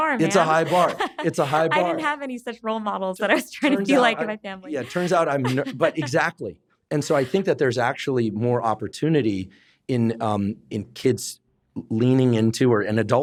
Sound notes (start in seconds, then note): 4.7 laughs